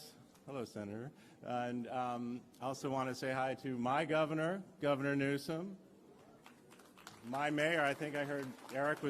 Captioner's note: applause